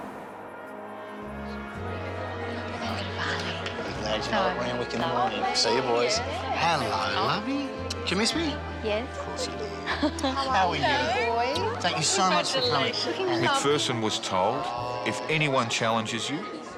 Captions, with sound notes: (pleasant music) (people chattering) Thanks, I'll be with you in the morning. See you, boys. Hello, lovey. Did ya miss me? - Yes. - Of course you did. - How are you? - How are you? Thank you so much for coming. - Congratulations. - McPherson was told if anyone challenges you,